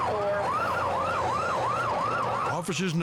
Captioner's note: sirens wail